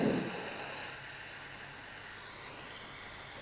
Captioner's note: hissing